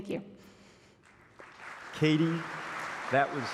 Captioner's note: applause